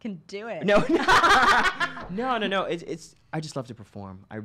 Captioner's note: laughs